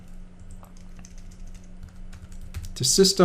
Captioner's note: typing